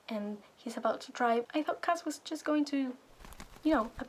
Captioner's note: wings flapping noise